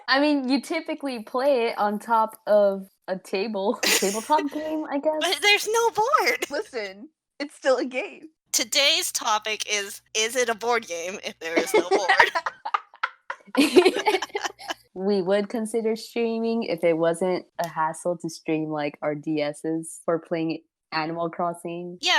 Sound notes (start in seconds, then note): 11.6 laughter